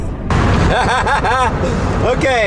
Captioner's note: laughs